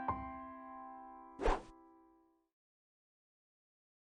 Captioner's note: piano music intro; swooshes